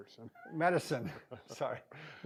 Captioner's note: laughing